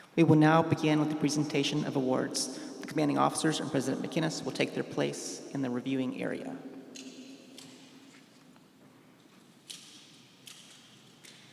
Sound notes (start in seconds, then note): none